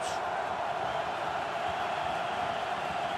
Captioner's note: crowd cheering